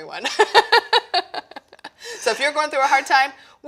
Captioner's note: laughing